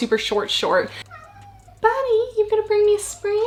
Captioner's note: cat meows